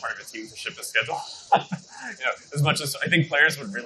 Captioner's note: laughs